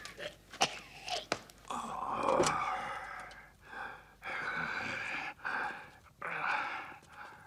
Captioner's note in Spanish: respira con dificultad